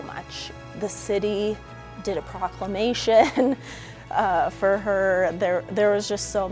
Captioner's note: laughs